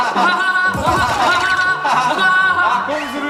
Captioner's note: hahahaha